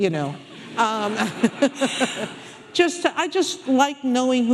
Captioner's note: audience laughing